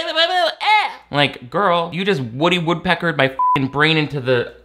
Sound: beep

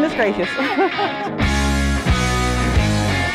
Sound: laughter

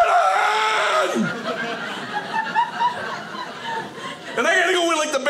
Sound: audience laughing

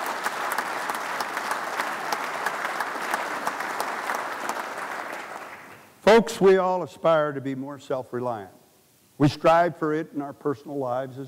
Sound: applause

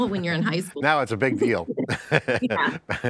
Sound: laughs

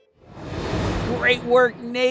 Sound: air whooshing

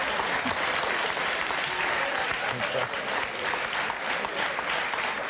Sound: audience laughs and claps

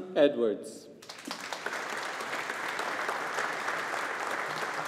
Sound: audience applauding

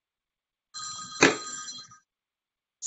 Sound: phone ringing

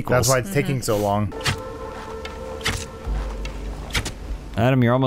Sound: swift arrow sounds

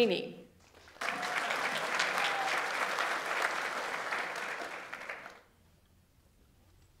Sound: audience applauds; audience member cheers

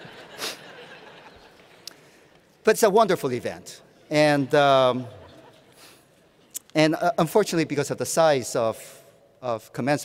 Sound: laughter

